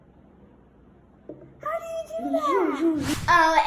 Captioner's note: magical wooshing